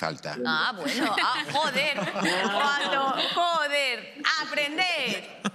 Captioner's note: laughs